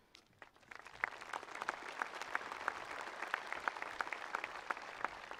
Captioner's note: attendees applauding